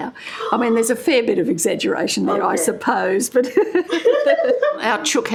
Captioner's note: laughter